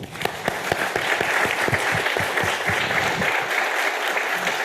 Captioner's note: audience applauding